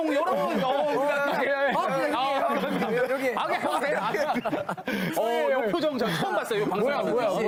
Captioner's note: incomprehensible, but laughing because of Rocky